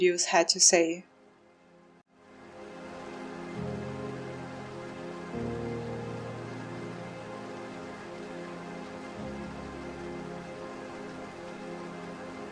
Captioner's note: magical sound